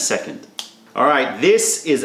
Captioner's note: snap